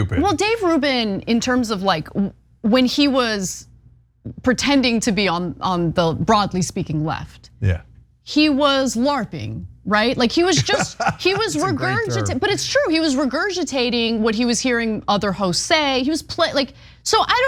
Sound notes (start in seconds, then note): 10.4 laugh